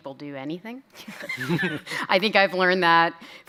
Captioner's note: chuckles